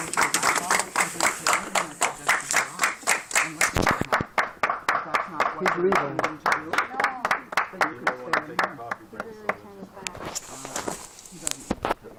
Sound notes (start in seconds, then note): 7.0 unity clap